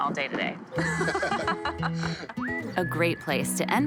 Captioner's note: both laugh